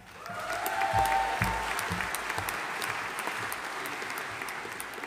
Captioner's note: audience applauding